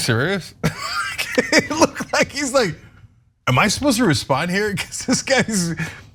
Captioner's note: laugh